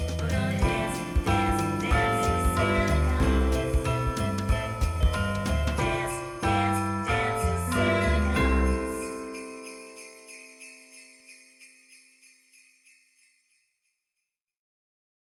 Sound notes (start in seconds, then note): 0.0 upbeat music; 8.6 bells jingling